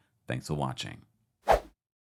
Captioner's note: whooshing outro